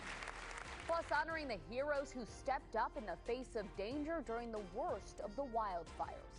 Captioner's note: applause